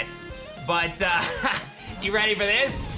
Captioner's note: chuckles